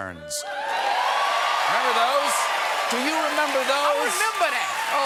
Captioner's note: cheers and applause